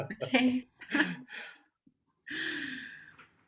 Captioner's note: laughter